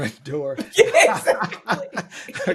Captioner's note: laughing